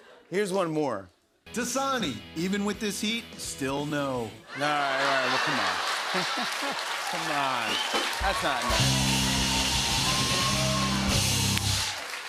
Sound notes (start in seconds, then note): 4.7 laughter